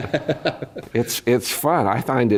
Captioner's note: laugh